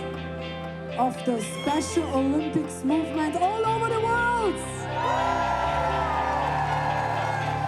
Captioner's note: cheering; upbeat music